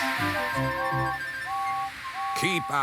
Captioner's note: toot toot toot